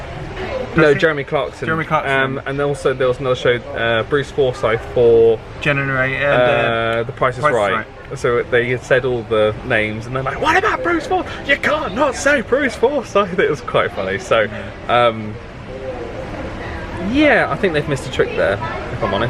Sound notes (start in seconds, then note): none